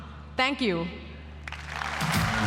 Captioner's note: applause